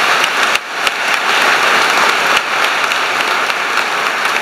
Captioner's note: applause